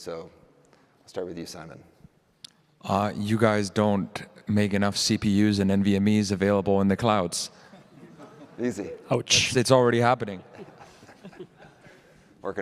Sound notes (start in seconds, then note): 7.6 laughter